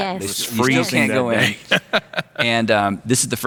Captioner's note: laughing